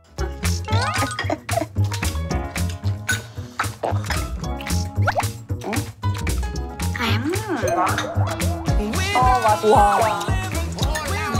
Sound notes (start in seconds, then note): 5.0 chew